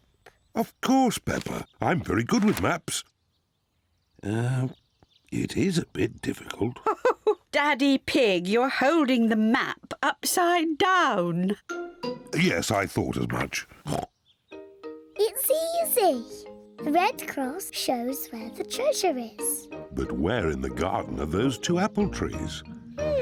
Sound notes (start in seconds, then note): 6.6 chuckles; 13.8 oinks